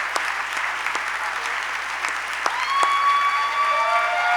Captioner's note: applause